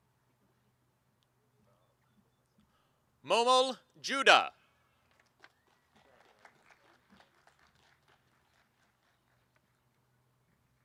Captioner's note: applause; cheering; applause and cheering